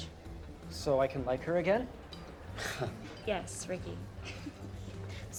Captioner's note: laughs